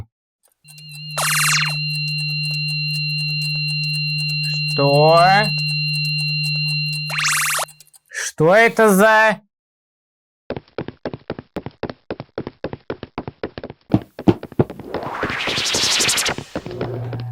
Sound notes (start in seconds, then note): 0.6 clock ticking; 0.6 portal beeping; 0.6 energy bursts; 4.8 portal beeping; 5.1 clock ticking; 5.5 energy bursts; 5.5 portal beeping; 10.5 steps; 14.9 rustle of teleportation; 14.9 steps